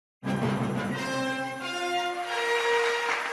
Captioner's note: clapping